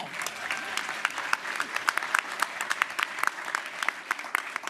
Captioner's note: applause